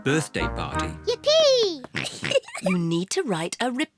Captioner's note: giggles